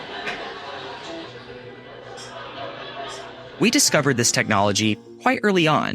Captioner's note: laughter